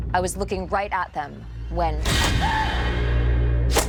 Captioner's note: screaming